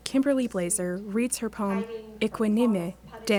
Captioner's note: speaking foreign language